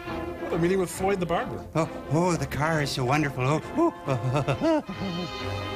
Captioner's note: giggling